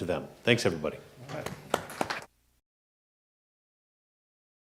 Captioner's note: audience clapping